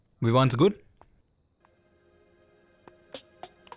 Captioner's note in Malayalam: none